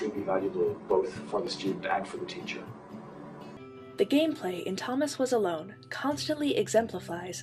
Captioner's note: gentle female voice